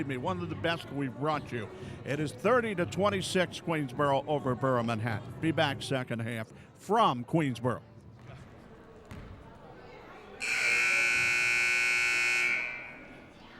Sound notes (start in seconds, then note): 9.0 dribbling; 10.4 buzzer sounding